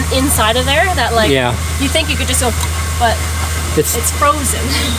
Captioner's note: click